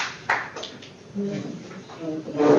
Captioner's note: applause